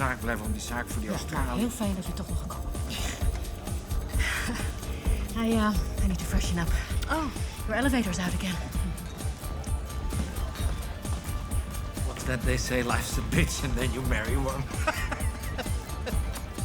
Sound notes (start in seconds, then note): 4.0 laughs; 5.3 in English; 14.7 laughs